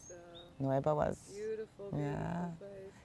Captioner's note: hebrew